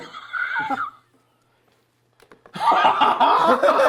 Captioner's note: laughter